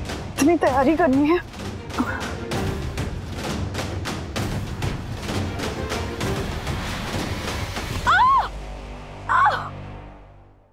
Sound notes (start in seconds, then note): 8.0 shrieking